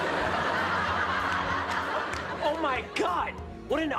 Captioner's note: laughter